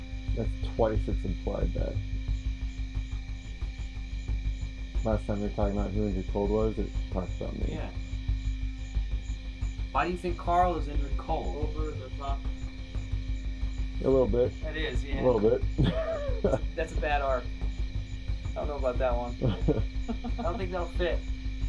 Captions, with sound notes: -That's twice it's implied that. Last time you were talking about who Indrid Cold was it talked about me. -Yeah. Why do you think Karl is Indrid Cold? A little bit. -That is, yeah. -A little bit. [Laughs] -That's a bad arc. I don't know about that one. I don't think that'll fit.